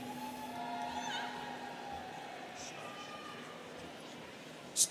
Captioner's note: students cheering